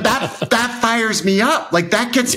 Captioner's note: laughs